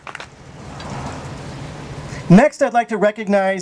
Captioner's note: clapping